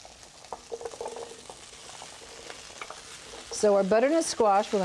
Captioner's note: pattering